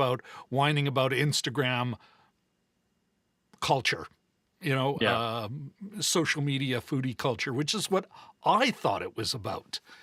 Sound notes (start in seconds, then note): none